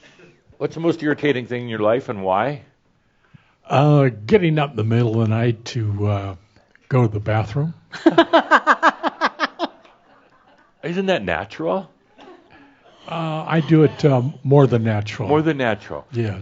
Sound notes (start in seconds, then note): 8.0 laughs